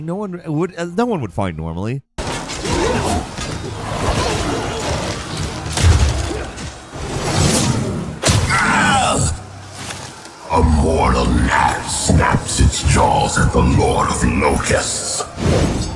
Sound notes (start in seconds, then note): 2.3 intense ambient music; 2.3 loud thumping; 8.2 players grunting